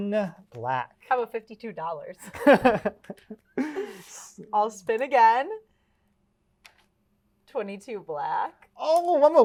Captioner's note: laughs